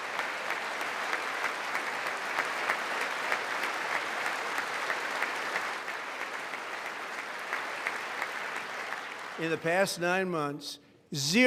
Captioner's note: applause